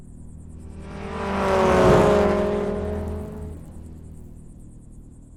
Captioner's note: car engine rumbling